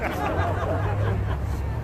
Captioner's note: crowd laughs